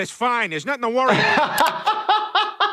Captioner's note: he laughs